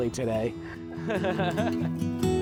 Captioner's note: chuckling